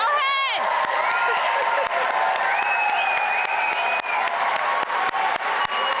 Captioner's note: cheering